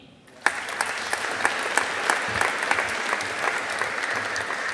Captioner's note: audience applauding